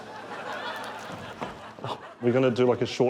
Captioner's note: audience laughs